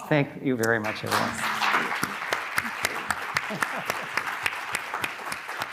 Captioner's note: audience clapping